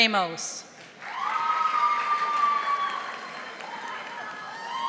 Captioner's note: audience applauding